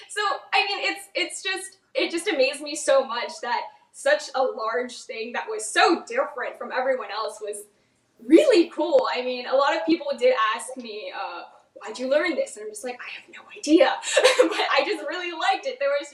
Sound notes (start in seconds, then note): 14.0 laughs